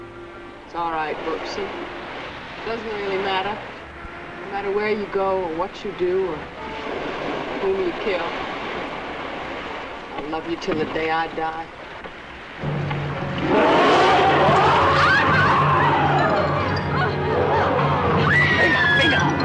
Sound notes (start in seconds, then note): 12.8 Mary-Belle screaming; 13.4 creature roaring; 17.7 Colonel Cabeza speaking in Spanish